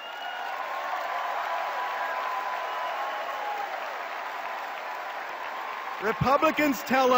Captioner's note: cheers and applause